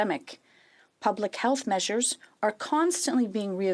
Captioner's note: speaking in French